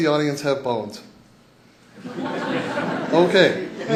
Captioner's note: laughter